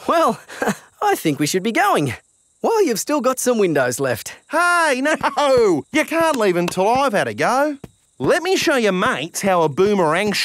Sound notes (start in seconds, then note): 4.5 laughing